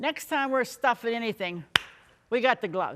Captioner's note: hands clap